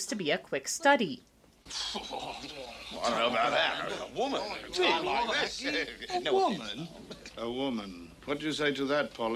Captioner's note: men muttering